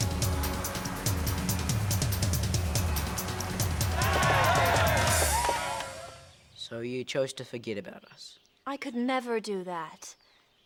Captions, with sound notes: (cheering) - So you chose to forget about us? - I could never do that,